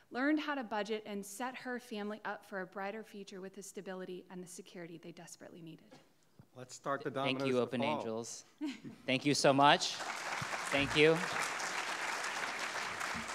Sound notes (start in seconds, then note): 8.6 laughing; 9.5 audience clapping